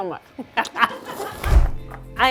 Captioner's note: laughs